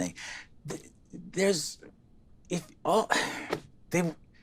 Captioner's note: stutters